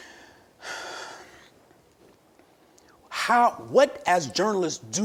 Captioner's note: exhales